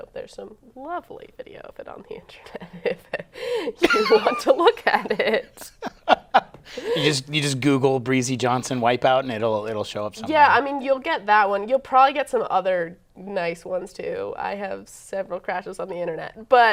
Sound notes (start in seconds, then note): 6.7 laughing